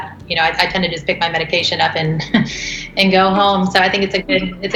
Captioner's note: chuckles